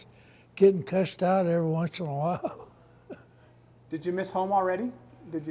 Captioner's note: laughs